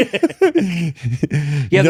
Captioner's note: both laughing